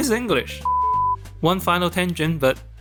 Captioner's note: beep